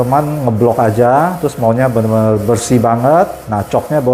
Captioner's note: printer machine noise